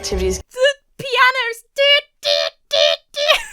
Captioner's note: imitates tense music; giggles